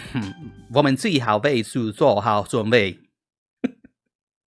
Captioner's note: speaks in Chinese